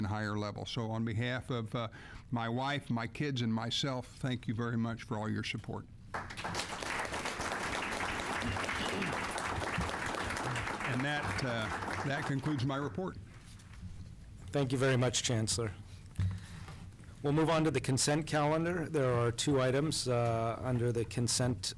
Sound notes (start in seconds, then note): 6.1 applause